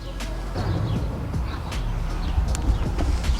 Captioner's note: hammer